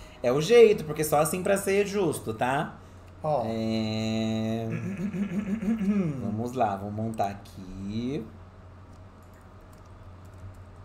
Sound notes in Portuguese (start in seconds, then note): 5.6 pigarreira